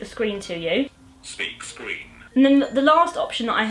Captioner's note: phone speech